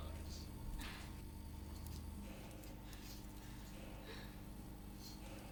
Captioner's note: Heather grunting